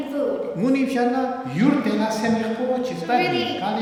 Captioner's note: speaking tibetan